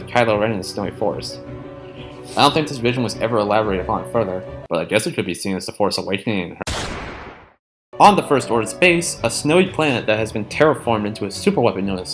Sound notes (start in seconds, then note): 6.6 gunshot